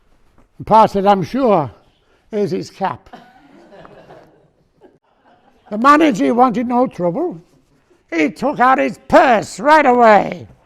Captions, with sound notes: Pa said 'I'm sure, here's his cap' *Audience laughing* The manager wanted no trouble he took out his purse right away